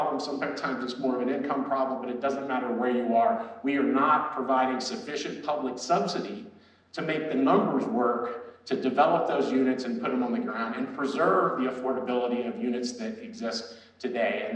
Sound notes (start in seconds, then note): none